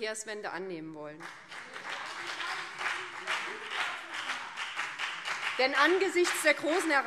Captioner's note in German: Beifall BÜNDNIS 90/DIE GRÜNEN und CDU